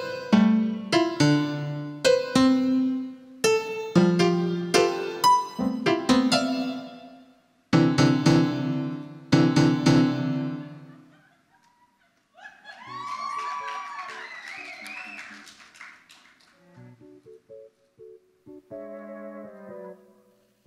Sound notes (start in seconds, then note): 10.4 audience laughs; 12.4 audience applauds; 17.0 gentle, upbeat music